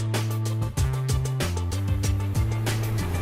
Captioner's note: none